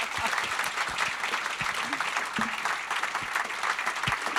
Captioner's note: laughs; audience clapping